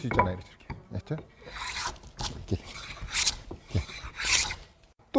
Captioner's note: planing sound